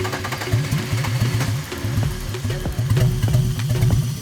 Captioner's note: car engine cranking; car engine gurgling